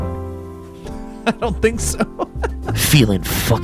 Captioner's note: laughs